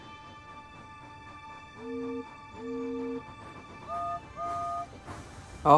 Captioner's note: hank and neville whistle